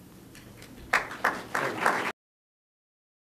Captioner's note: applause